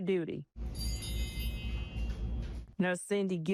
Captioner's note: bell chimes